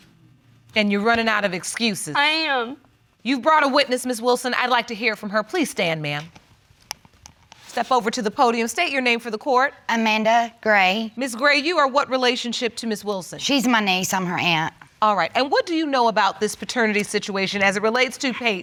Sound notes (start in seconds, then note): none